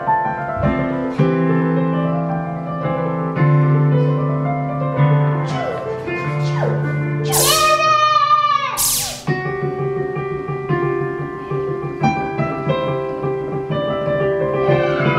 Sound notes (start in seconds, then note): 8.8 laser blasts; 9.5 light piano music